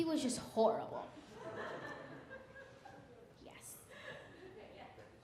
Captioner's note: audience laughing